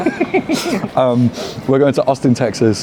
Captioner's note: all laugh